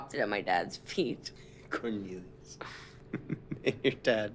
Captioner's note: chuckles